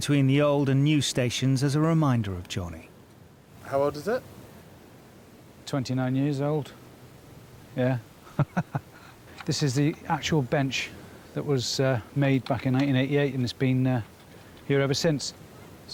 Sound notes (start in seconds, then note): 8.2 chuckles